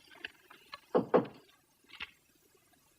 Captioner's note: knocking